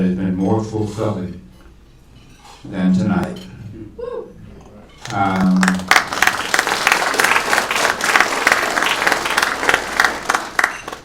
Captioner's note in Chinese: 掌声